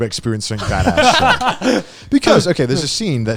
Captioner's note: guys laugh